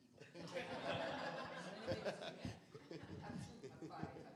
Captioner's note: laughter